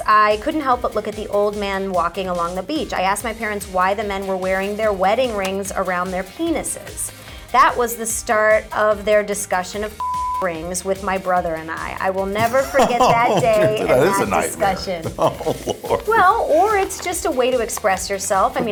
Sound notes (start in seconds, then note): 10.0 beep; 15.2 Kelsey chuckles